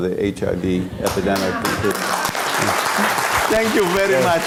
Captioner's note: applause